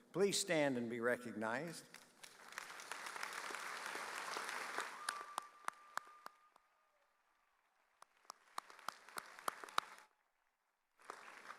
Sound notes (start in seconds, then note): 2.9 audience cheering